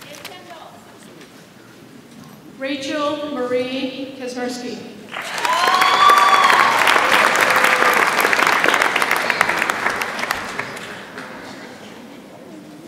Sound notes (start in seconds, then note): 5.1 audience applauds and cheers